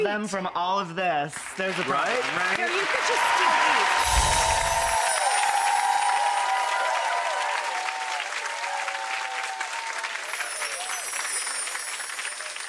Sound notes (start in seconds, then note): 2.2 audience cheering and clapping